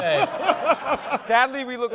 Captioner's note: laughter